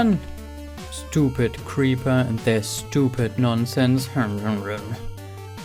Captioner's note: angry mumbling